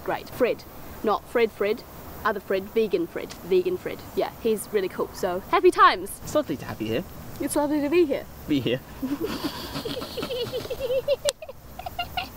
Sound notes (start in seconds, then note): 8.6 laughing; 8.9 giggling